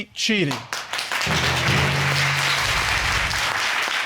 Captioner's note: audience applauding